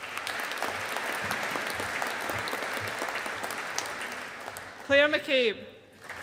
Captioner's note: audience applauding